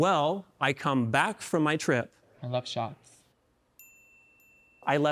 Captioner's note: winks dinging